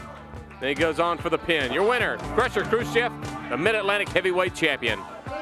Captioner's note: crowd cheering